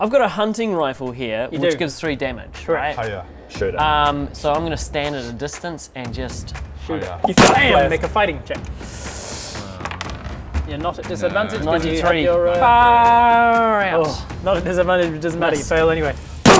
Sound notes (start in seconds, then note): 7.2 bam!